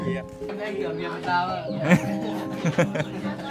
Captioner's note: chatting